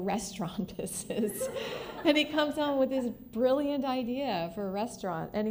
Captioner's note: laughter